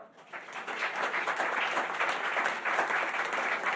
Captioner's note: applause